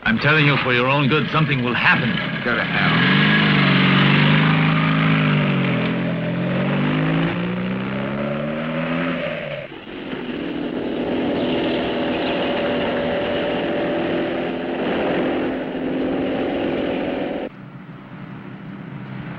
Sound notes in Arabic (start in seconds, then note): 5.9 صوت المحرك